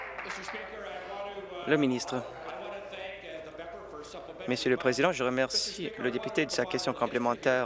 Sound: applause

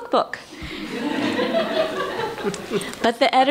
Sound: laughter

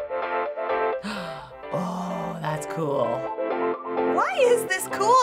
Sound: upbeat music; gasps

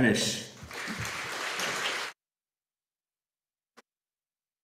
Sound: audience applauding

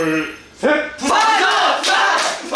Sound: = Applause

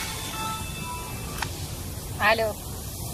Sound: mobile ringing; pick up click

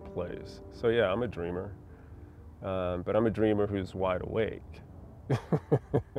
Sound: laughter

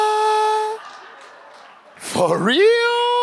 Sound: audience laughs

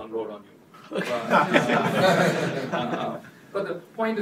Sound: laughter

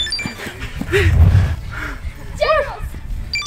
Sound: heavy breathing

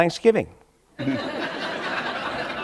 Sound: laughter

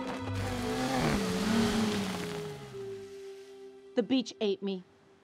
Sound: car revving

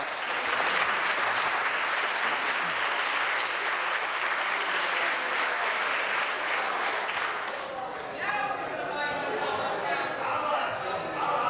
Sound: applause

